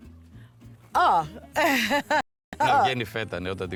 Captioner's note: laughs